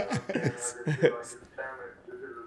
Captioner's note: laughs